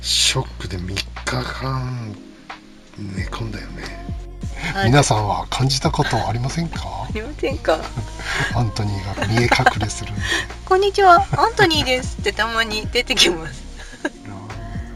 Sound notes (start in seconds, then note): 7.6 laughs